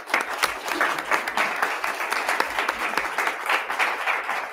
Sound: attendees clapping

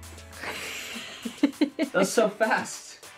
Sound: host laughing

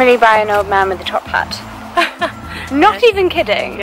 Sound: laughs

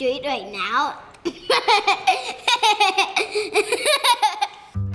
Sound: laughs

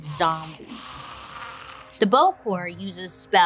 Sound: zombie growling

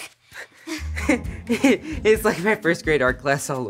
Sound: anxiously laughs

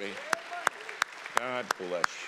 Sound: congregation applauding

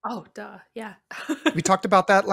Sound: laughs

